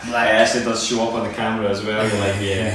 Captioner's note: chuckling